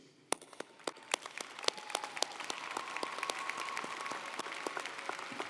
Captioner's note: audience cheering & applauding